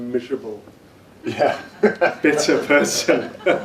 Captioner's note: laughs